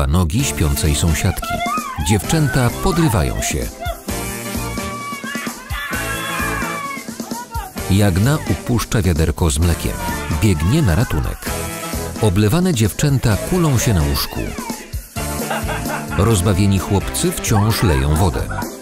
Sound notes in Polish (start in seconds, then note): 1.3 krzyki dziewcząt; 9.9 krzyki; 15.2 śmiech; 17.3 krzyki, śmiechy